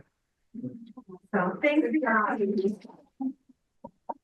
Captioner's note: speaks faintly; speaks faintly